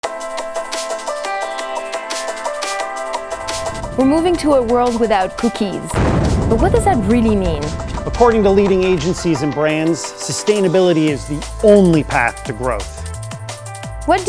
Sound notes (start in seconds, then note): 0.5 bright electronic music; 6.2 explosion booms